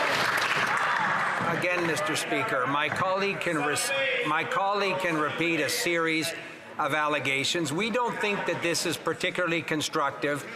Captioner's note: some Applause